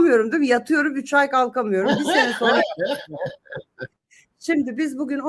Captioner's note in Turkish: kahkaha